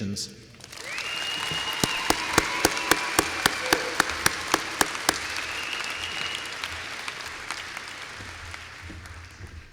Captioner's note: applause